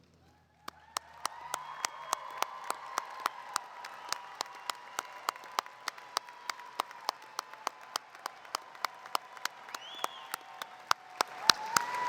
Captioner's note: applause